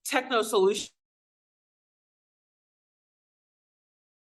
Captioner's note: audio cuts out